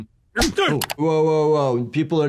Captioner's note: hand slapping